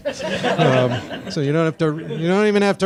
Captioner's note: audience laughing